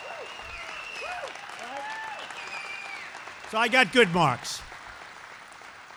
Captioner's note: applause